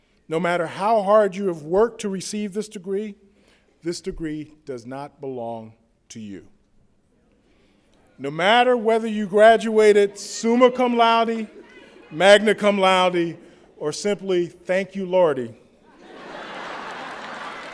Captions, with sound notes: No matter how hard you have worked to receive this degree, this degree does not belong to you. No matter whether you graduated summa cum laude, magna cum laude, or simply thank you Lordy [laughter],